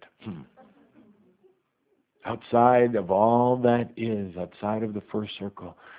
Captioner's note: some laughter